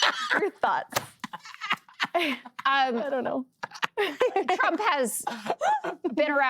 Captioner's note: laughter